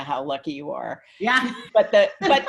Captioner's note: laughs